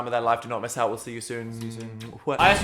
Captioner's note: lips smacking; Dan exclaims